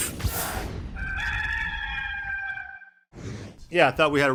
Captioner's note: rooster crowing